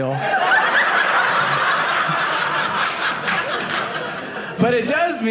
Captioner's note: audience laughing